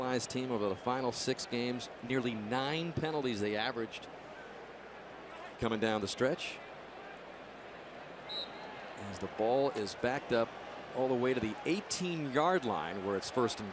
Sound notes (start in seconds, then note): 8.2 whistle blows